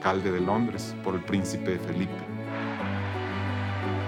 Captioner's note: muffled cheering